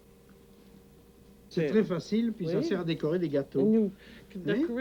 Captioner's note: speaking french